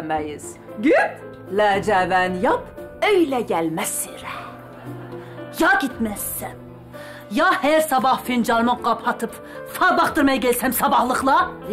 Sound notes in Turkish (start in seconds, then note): 4.5 Gülme efekti